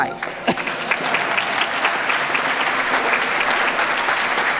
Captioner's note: applause